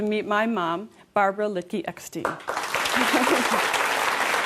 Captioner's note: applause